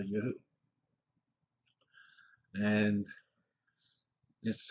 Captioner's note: pause